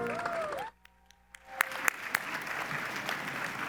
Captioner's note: audience applauds